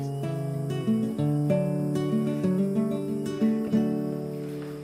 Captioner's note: insects chirp